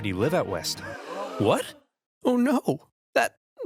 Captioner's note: gasps